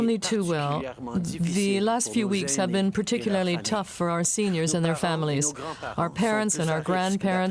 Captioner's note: speaking french